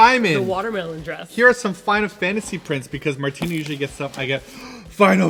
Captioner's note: gasp